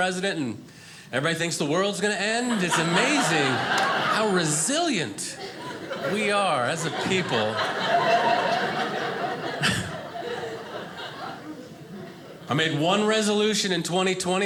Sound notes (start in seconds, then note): 7.3 audience laughing